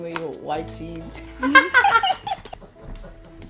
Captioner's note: laughs